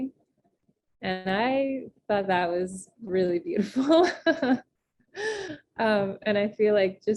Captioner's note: chuckles